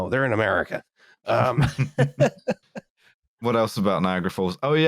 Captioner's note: laughter